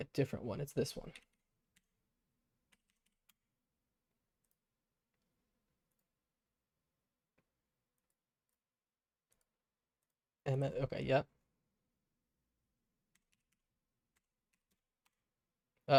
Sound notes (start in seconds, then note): 1.2 silence